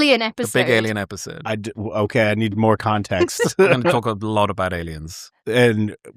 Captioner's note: laughter